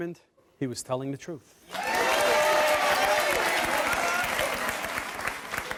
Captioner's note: audience cheering